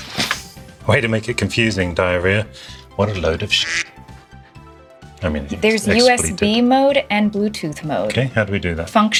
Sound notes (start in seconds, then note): 3.1 quack